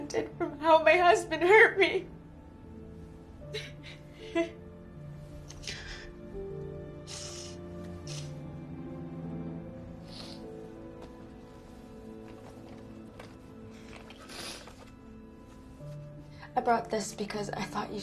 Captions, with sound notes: from how my husband hurt me. (Sobbing) (Sniffling) I brought this because I thought you should have